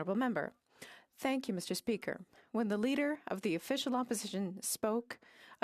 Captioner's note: speaking French